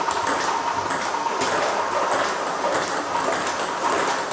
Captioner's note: ball ping pong hitting continues